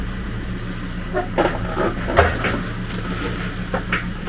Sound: log creaking

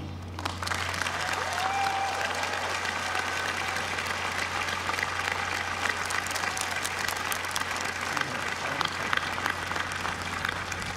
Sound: applause

